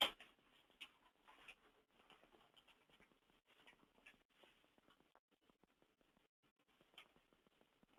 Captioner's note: long pause; long pause continues